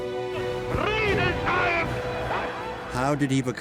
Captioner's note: Hitler speaking in foreign language